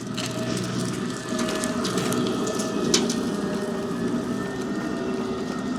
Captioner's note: machinery humming